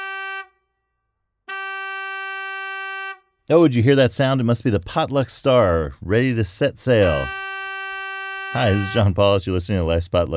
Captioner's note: ship's horn